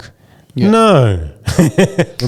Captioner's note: laughing